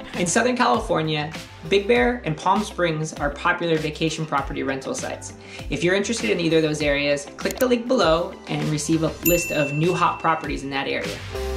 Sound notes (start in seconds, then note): 7.4 mouse clicks; 9.2 bell rings